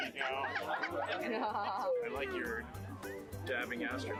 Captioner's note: laughter